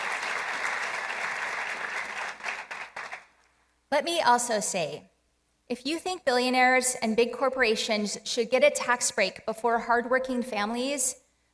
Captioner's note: applause